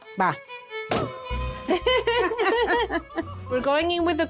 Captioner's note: chuckles